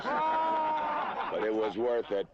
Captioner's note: hooting